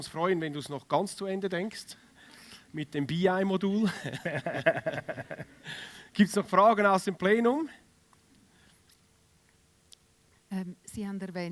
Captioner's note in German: gelächter